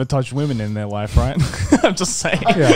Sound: laughs

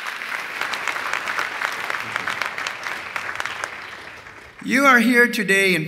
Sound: applause

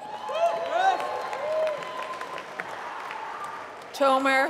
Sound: applause

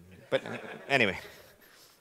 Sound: laughing

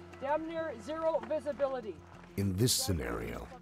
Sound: voiceover

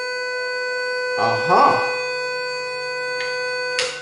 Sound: beeps loudly

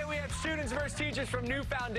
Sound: cheers and applause

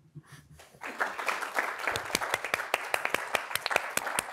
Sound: audience applauds

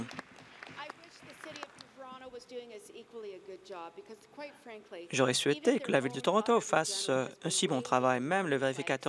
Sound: applause

